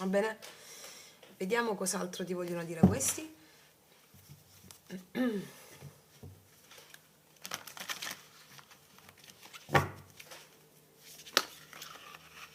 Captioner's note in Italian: schiarire la voce